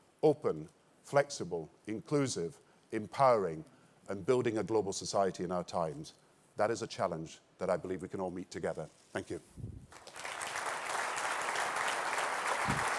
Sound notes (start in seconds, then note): 9.9 applause